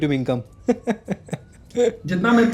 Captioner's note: laugh